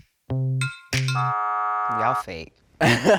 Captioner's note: buzzer buzzes